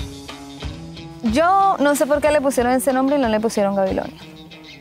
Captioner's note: speaking spanish